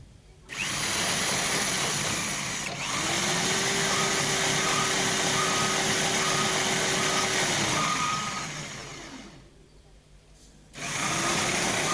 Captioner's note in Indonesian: suara mesin